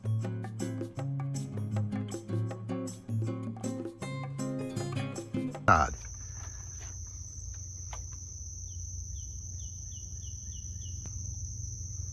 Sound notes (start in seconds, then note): 8.5 birds chirping